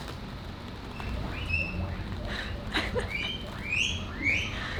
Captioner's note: critter squealing